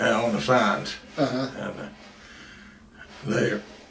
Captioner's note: laughs